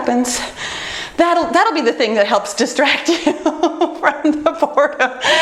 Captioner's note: laughs